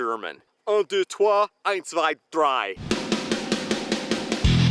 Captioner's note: foreign language; guitar music